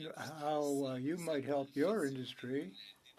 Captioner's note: speaking French